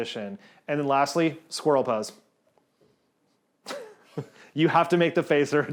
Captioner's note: laughs